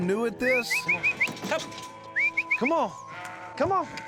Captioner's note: whistling